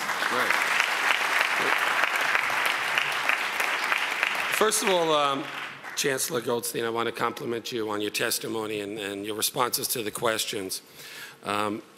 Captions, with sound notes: (audience applauds) First of all, Chancellor Goldstein, I want to compliment you on your testimony and your responses to the questions.